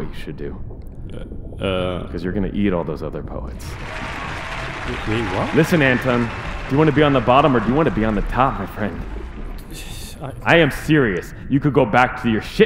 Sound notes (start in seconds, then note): 3.0 cheers and applause; 8.8 stammers